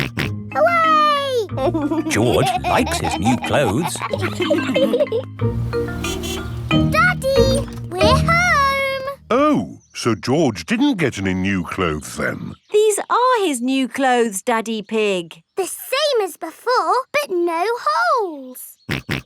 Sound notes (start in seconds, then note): 1.5 snorts and laughs; 5.5 horn honks